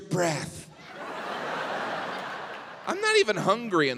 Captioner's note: audience laughs